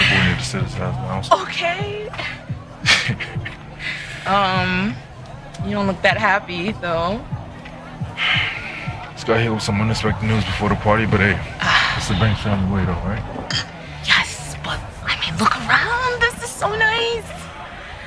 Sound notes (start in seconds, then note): 2.9 laughing; 8.3 sighing